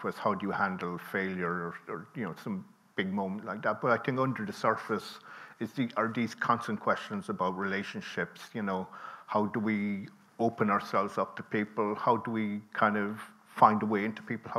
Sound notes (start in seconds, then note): none